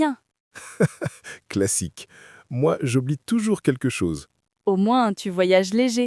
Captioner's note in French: rire